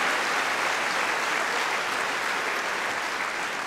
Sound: cheering & Applause

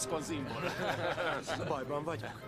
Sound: laughter

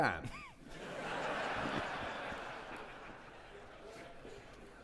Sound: audience laughing

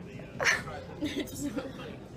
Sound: laughs

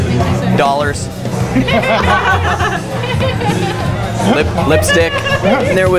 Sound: laughter

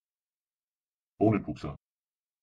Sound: fast Pronunciation

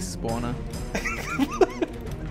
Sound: laughing

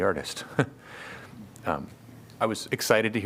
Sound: laughter

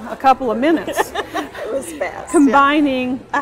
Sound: laughter

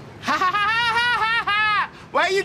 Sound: laughing

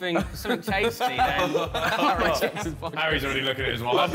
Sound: all laughing

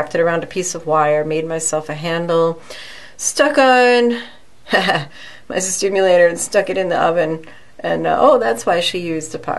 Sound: laughs

